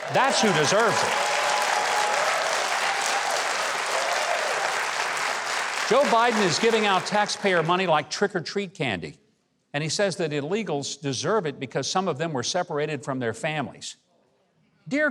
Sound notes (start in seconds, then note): 2.1 crowd cheering